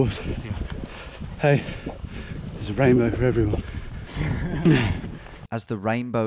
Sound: both softly chuckle

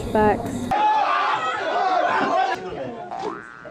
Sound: screaming

